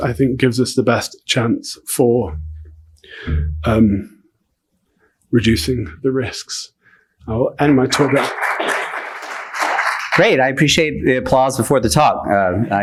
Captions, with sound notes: I think gives us the best chance for reducing the risks. I'll end my talk now. (attendees laughing) - Great. I appreciate the applause before the talk.